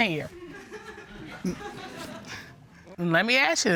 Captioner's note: scattered laughter